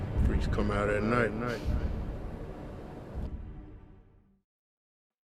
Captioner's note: echoes